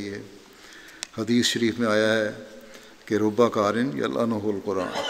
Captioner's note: Arabic